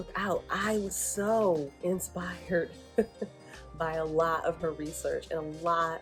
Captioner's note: laughs